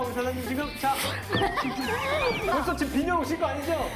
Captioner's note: laughing